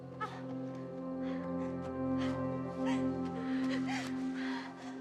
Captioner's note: Betty crying